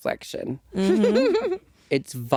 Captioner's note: chuckling